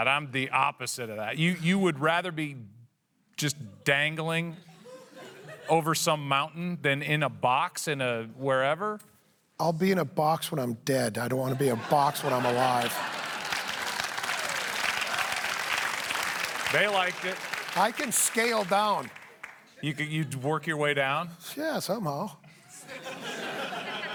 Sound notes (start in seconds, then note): 15.6 applause